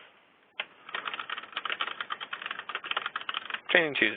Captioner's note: keyboard clicking